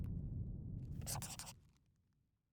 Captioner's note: scribbling